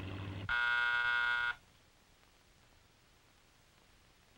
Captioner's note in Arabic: رنين جرس الباب